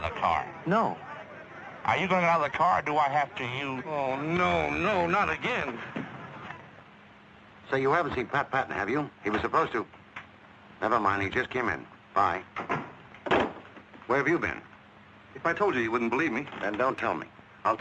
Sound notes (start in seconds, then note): 0.9 pat